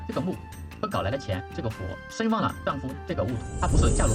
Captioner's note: fire